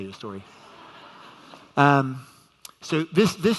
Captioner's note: audience laughs